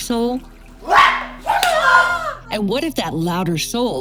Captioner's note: yelling during martial arts move